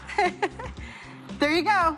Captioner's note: Persephone laughs